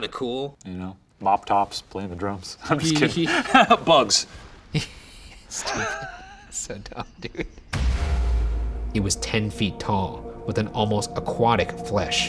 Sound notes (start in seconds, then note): 4.7 laughs; 7.7 dramatic whooshing